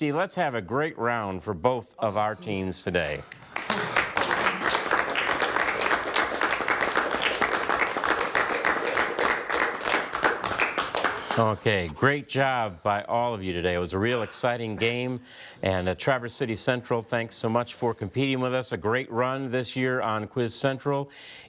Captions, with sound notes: Let's have a great round for both of our teams today. (players applaud) Okay, great job by all of you today, it was a real exciting game. And Traverse City Central, thanks so much for competing with us, a great run this year on 'Quiz Central.'